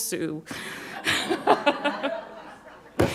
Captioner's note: laughs